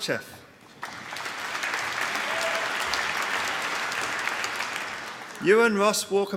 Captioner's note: applause